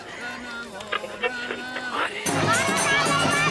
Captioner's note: tuning through channels